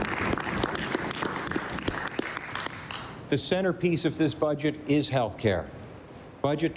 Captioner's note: applause